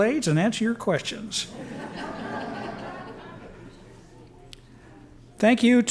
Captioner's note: laughter